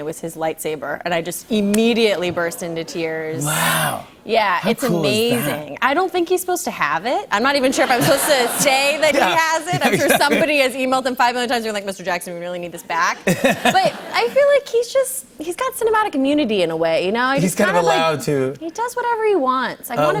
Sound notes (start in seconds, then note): 6.7 light laughter; 13.3 light laughter